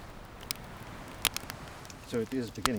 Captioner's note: fire crackles